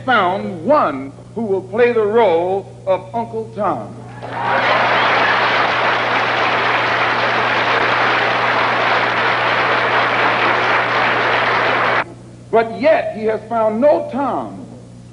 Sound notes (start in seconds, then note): 4.1 thunderous applause